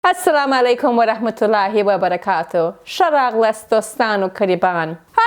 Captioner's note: speaking in foreign language